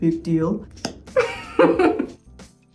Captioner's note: mascara clicking; Simone Ashley laughing; gentle upbeat music